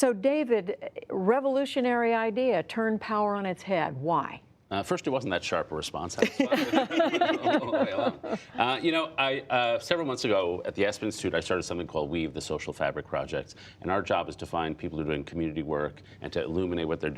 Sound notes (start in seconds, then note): 6.2 laughter